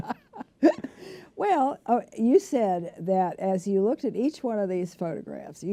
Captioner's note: laughter